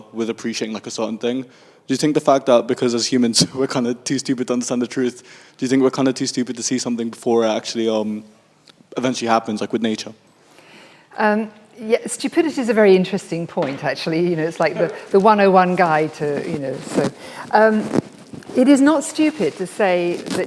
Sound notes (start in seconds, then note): 14.7 laughs